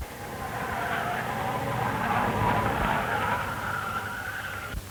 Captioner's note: tires squealing